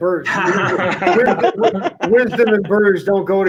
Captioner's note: laughter